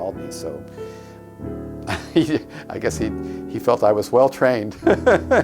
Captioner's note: laughs